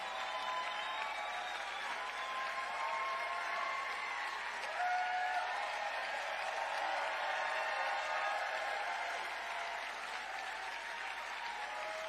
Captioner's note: cheering